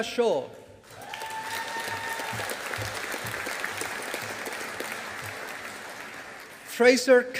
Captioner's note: audience applauding